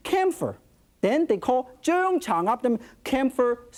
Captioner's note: speaks in Chinese